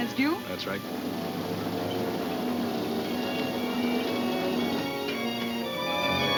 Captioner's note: gears turning; dramatic music